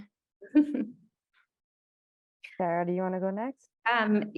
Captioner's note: chuckles